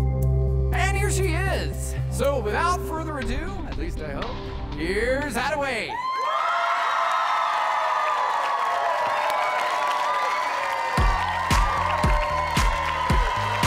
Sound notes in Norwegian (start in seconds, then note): 5.9 jubel og applaus